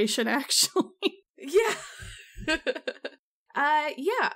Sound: laughs

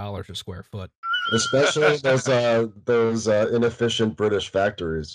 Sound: laughter

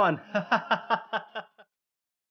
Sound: laughing

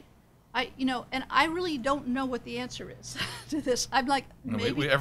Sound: laughs

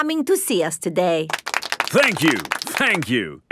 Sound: applauding

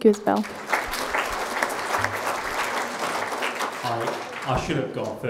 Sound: crowd applauding

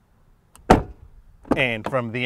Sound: door slamming

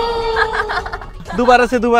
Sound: laughing

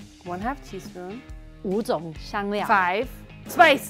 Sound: speaking in mandarin

